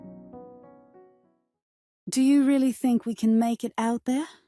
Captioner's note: none